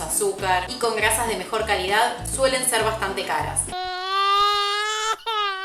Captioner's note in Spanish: llanto